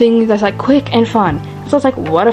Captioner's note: none